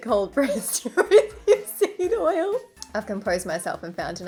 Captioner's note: laughing